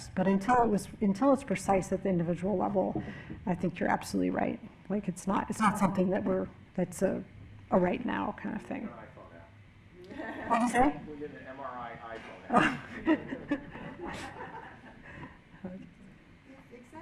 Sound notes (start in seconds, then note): 10.0 laughing; 12.4 laughing